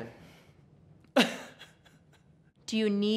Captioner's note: weeping